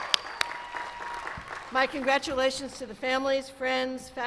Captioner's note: cheers and applause